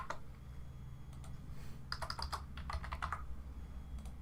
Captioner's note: keyboard typing